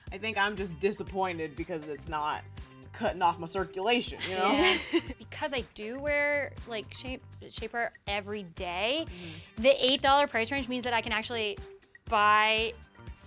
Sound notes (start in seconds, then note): 4.2 laughs